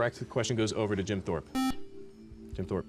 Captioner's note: beep